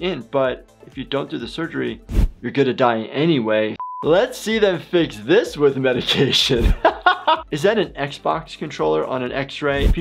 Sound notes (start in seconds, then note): 3.2 buzzer beeps; 6.0 laughs